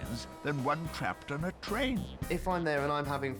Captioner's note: horn blaring